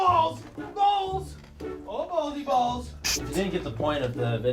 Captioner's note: yelling balls